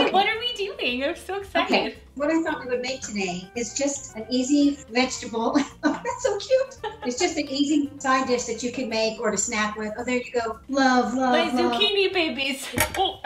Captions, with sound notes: Okay, what are we doing? I'm so excited. - Okay, what I thought we would make today is just an easy vegetable... (laughing) That's so cute. It's just an easy side dish that you could make or to snack with. Oh, there you go. Love, love, love. - My zucchini babies.